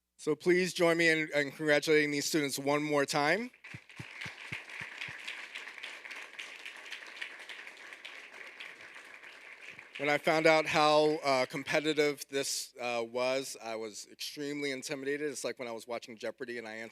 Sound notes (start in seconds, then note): 3.5 audience applauding